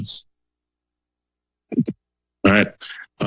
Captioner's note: silence